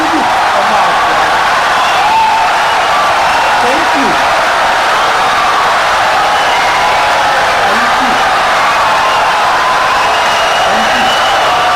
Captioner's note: wild applause and cheering for 17 seconds